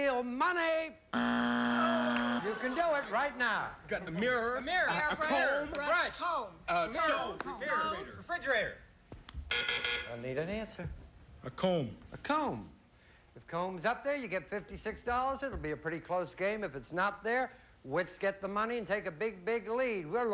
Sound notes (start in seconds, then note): 1.1 buzzer; 8.0 buzz buzz buzz